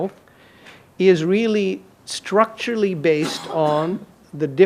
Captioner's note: audience member coughs